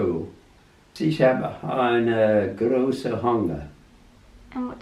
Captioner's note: speaking German